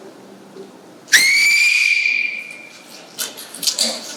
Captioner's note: A short whistle